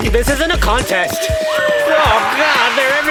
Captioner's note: police sirens, footsteps